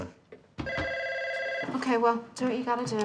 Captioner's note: phone ringing